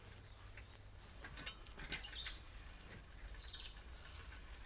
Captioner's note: birds singing; birds singing